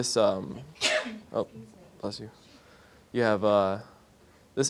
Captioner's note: sneezing